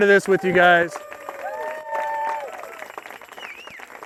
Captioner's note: applause